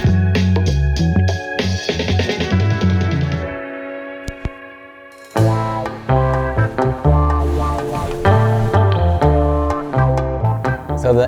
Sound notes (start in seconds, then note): 0.1 soulful music continues; 5.2 static crackles; 5.4 jazzy instrumental music; 7.6 water whooshes